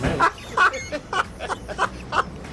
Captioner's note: laughs